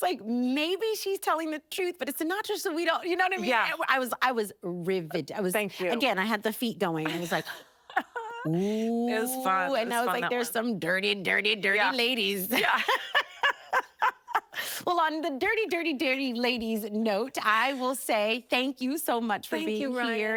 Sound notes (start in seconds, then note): 7.8 laughing; 12.5 laughing